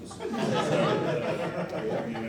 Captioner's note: laughter